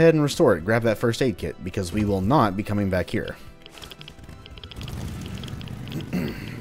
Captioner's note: clears throat